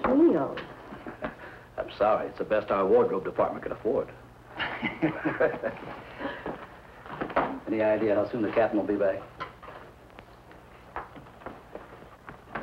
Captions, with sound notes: I can see that for myself. Where is she? [giggles] She's at police headquarters. That's where she is. Yes, sir. No, sir. Captain Lauder's still with the mayor.